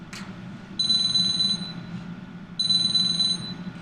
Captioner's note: phone ringing